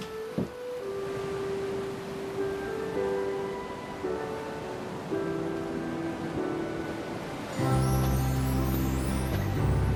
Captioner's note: ocean waves rolling in